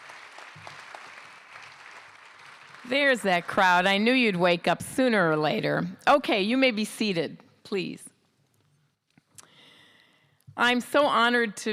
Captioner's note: cheering